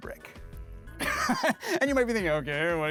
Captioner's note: laughing